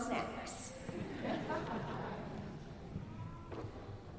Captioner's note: laughs